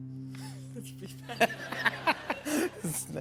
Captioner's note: laughter